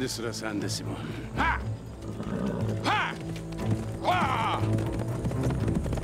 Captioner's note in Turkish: Bağırma sesi; At nalı sesi